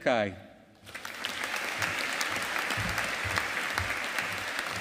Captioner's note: audience applauding